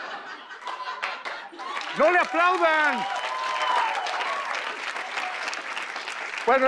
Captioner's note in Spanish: Aplausos